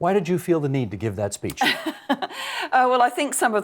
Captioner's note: laughing